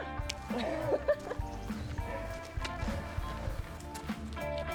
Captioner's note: laughter